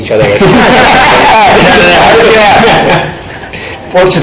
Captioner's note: panel laughing